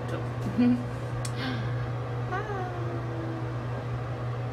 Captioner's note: smacks mouth